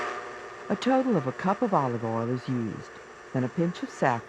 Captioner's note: voiceover